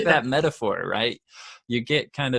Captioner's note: both laugh